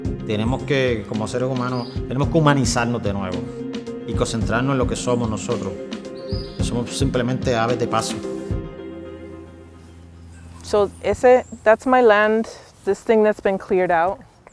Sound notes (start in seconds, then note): 9.1 walking